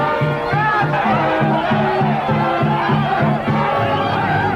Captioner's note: group yelling